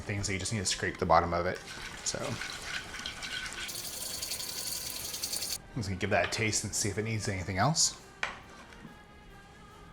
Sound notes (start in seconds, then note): 3.6 whisking rapidly